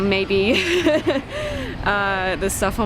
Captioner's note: laughs